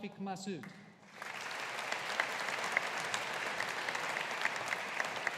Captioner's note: audience applauding